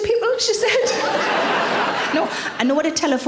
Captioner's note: audience laughing